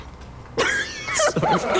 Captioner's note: both laughing